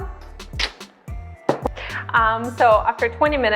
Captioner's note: sucks teeth